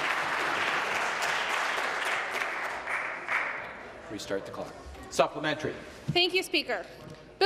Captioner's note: applause